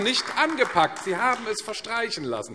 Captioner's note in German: Beifall AfD